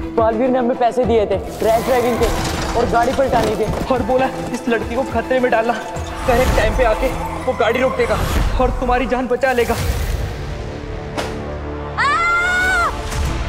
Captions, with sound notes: 'Baalveer paid us' 'for rash driving and flipping the car.' 'And asked us to put you in danger.' 'And that he will stop the car at the right time' 'and save your life.' [thud] [screams]